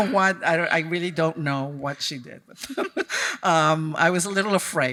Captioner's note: chuckles; chuckles